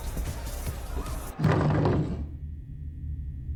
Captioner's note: discomforting rumble